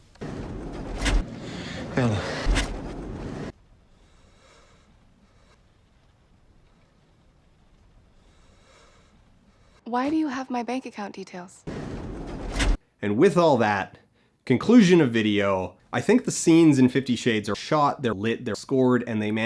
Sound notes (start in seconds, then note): 0.2 elevator closing noise; 2.8 reverse elevator closing noise